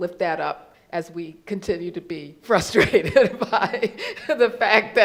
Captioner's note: laughs